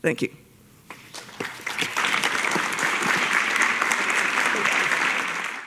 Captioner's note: applause